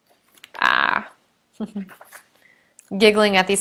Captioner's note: chuckling